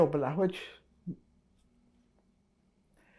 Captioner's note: pauses 6 seconds